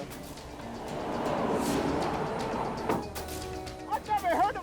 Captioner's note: car whooshing